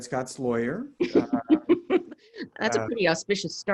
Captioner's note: laughs